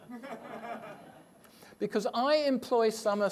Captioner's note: audience laughs